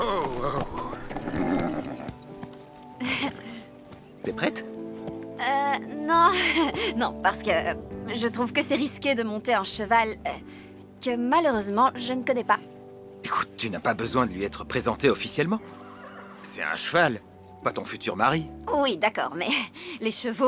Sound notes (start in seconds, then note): 3.0 chuckling; 6.3 chuckling; 19.8 chuckling